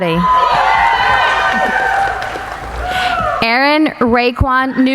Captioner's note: cheering